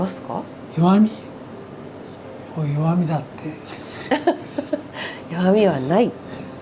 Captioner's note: laughs